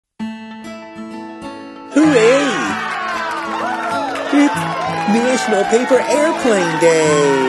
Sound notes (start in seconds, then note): 0.2 gentle guitar music; 1.9 crowd cheers